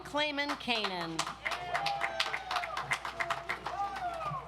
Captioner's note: audience applauds